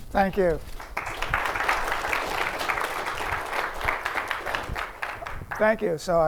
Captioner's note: applause